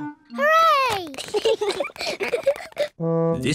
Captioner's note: both giggle